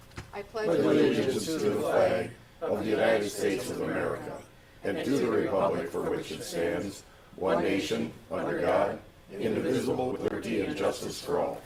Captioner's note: all recite Pledge of Allegiance